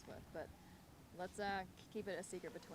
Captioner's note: none